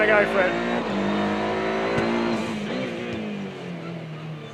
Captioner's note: car engine roaring